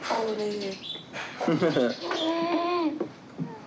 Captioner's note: chuckles